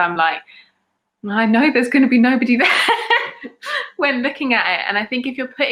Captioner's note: laughs